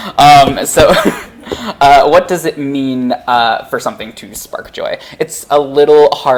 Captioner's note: laughs